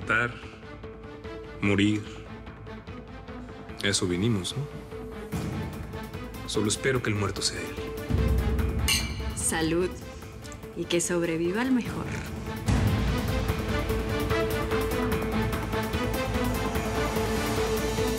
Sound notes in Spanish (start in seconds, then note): 8.8 Tintineo de copas